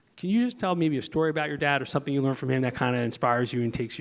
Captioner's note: none